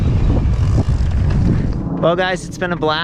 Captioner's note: bike ratchets